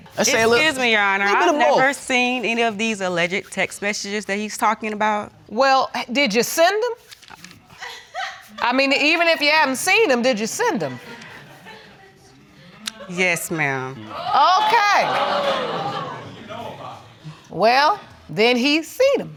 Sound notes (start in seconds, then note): 7.8 woman laughing; 14.1 audience exclaiming